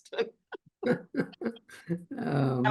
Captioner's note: laughter